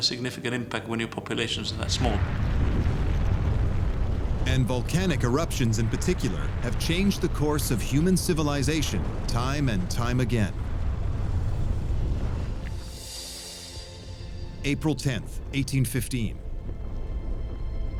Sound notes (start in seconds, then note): 2.0 deep rumble; 10.4 deep rumble; 12.7 tranquil music; 16.1 distant rumble